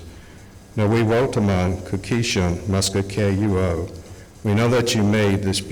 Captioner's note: speaking Algonquian